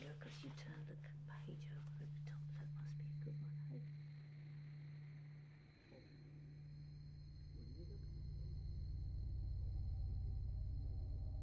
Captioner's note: voice fades away